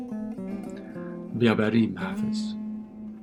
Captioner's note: reading in Farsi